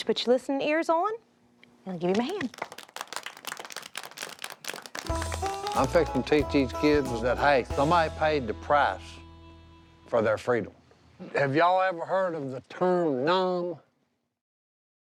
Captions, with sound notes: I want you to put your listening ears on, and give him a hand. [children clapping] - I'm fixin' to teach these kids that hey, somebody paid the price for their freedom. Have y'all ever heard of the term 'Nam?